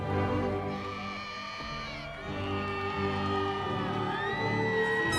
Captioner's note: cheers from crowd